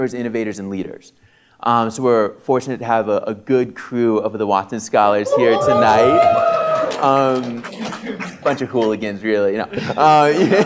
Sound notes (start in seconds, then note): 5.2 applause, cheering; 9.7 laughs